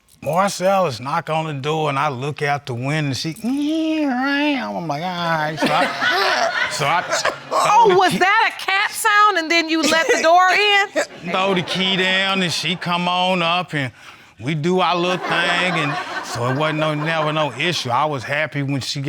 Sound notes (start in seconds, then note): 5.5 all laugh; 5.5 imitates giggling; 15.1 all laugh